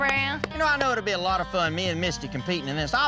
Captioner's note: booger claps